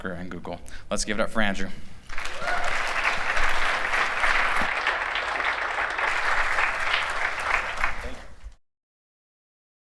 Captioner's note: applause